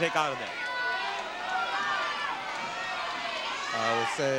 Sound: audience shouting

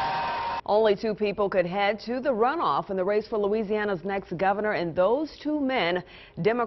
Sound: applause

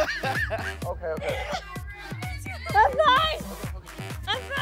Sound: crowd laughing

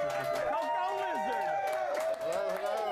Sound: audience cheering

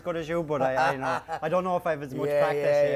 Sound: laughs

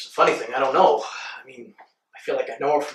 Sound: Landen sighs

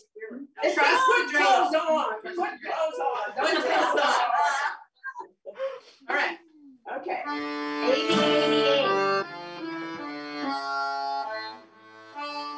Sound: laughter

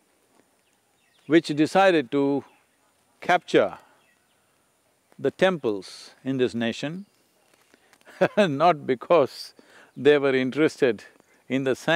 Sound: laughs

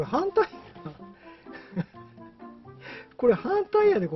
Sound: laughs

